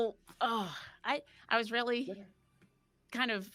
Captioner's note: person sighing